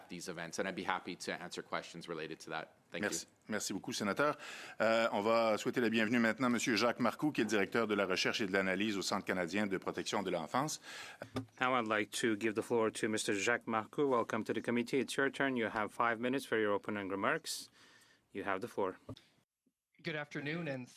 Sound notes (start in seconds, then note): 8.5 speaking French